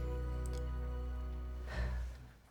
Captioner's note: sighs